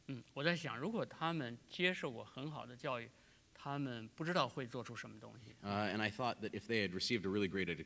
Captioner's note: speaking in Chinese